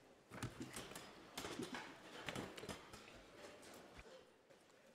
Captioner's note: chairs rattling